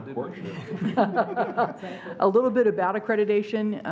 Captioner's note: laughing